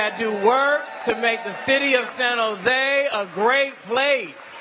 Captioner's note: cheering and applause